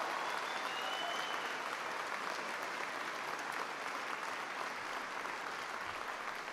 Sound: applause

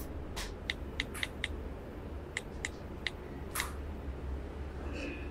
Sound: phone clicking

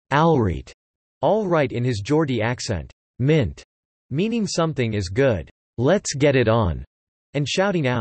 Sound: all right in his Geordie accent

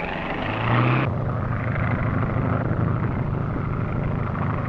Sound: motor revving; engine droning

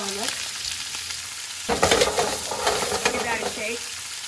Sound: sizzling

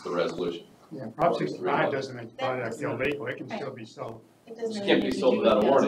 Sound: audience chattering, indistinct

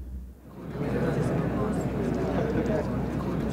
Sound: students murmuring

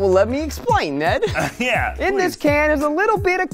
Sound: chuckling

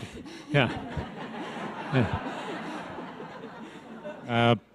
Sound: audience laughs

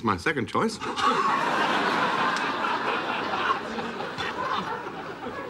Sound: laughter

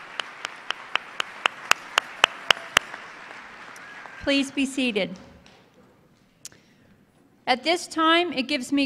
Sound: applause

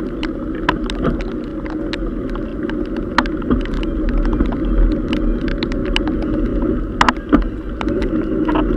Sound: gear shifting

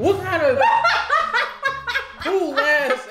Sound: laughs maniacally

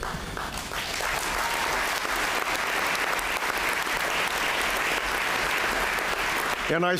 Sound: applause

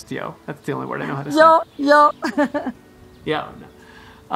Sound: laughing

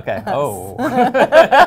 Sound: laughter

